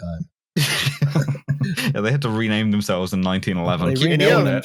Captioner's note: laughs